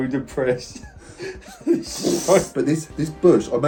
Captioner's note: laughs